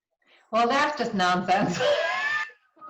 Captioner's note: laughs